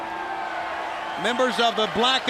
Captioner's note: crowd chatter